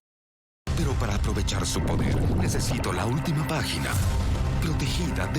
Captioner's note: speaking in Spanish